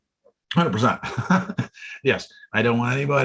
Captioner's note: laughs